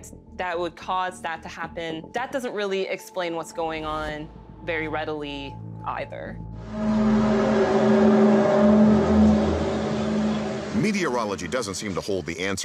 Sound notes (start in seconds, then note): 6.8 groaning sound